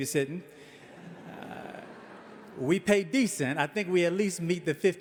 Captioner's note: audience laughing